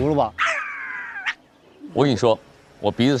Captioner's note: sniffing intensifies